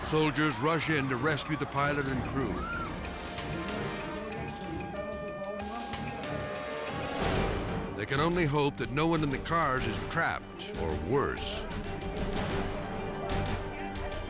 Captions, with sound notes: Soldiers rush in to rescue the pilot and crew. (people screaming) (dramatic music) (sirens blaring) (dramatic music) They can only hope that no one in the cars is trapped, or worse... (dramatic music)